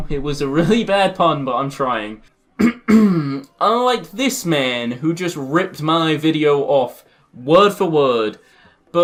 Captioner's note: obviously fake cough